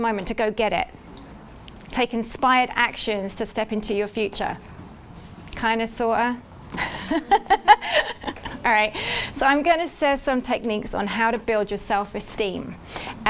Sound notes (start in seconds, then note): 6.8 laughs